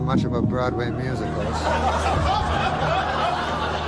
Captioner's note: laughter